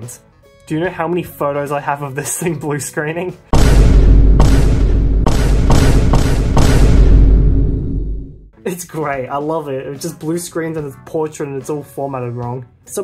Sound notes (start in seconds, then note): 6.4 Vine Boom